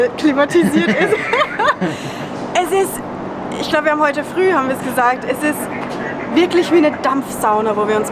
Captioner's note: laughter